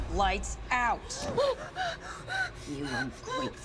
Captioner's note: Maria gasping